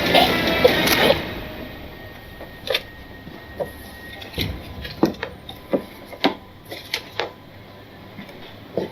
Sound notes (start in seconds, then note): 0.6 neck snaps